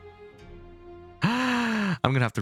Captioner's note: breathes in